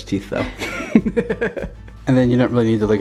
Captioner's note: laughter